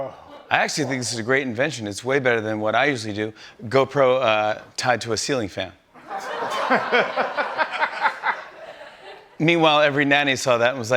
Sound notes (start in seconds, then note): 6.0 laughter